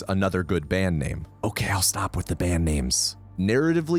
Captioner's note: whispering